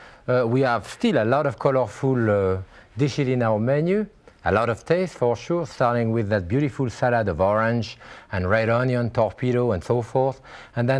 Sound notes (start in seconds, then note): none